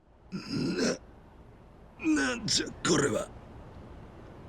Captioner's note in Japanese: 咳払い